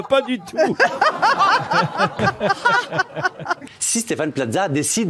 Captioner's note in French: Rires